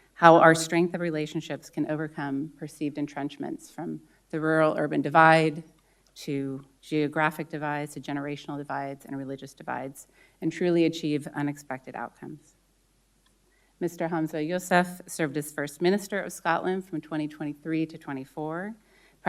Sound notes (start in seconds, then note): none